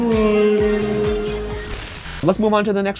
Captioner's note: screen buzzing